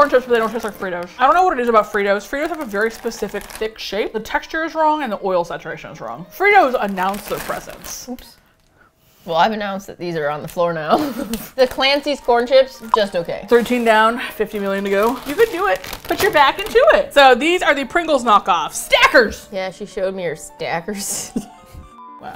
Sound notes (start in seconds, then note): 10.9 laughs; 21.1 both laugh